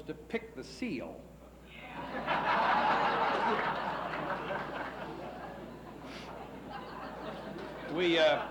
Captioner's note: laughs